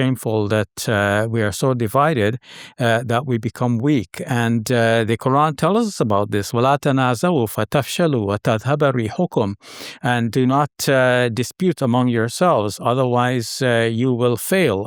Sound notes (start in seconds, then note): 6.8 speaking Arabic